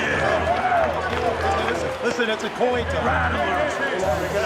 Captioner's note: crowd cheering